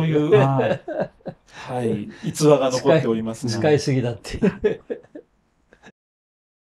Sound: laughs

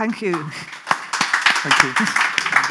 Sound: audience clap; audience claps

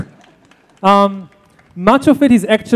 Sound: applause

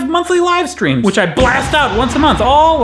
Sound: explosion noise

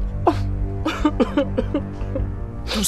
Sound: tears

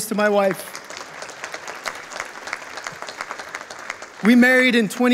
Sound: audience applauding

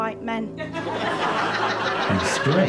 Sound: audience laughter

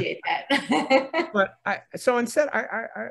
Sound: speakers laughing

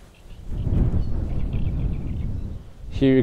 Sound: wind blowing

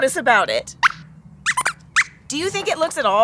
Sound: squeaks squeaks

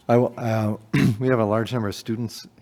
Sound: clear throat

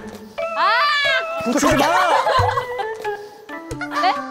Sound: clear and loud 'Ack'

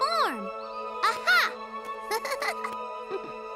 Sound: chuckles

